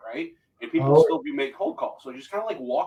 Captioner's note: voice muffling